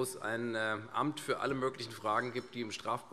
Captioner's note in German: none